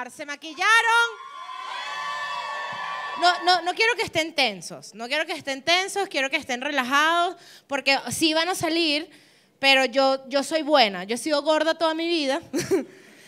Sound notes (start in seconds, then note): 2.0 applause